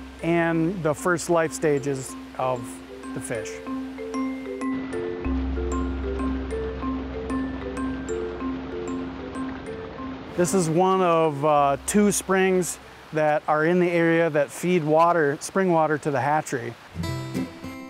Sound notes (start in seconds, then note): 5.3 water rushes; 17.0 lively music